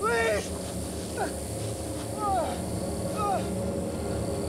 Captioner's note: moans